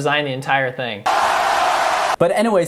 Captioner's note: dramatic laughs; crowd applauds